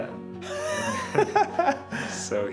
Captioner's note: laughing